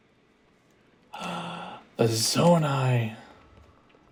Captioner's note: gasp